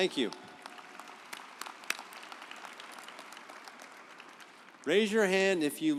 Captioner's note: audience applauding